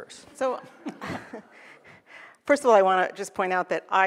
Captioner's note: laughs